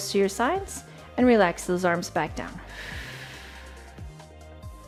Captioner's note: exhales